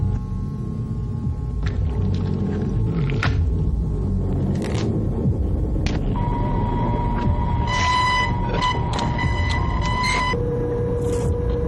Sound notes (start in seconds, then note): 7.4 distorted noises